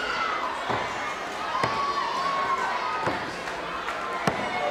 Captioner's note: crowd cheering